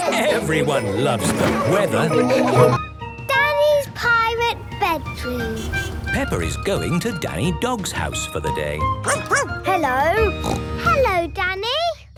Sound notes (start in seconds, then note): 9.0 barking; 10.1 snorting